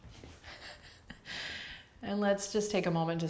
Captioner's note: laughing